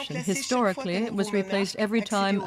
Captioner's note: speaking French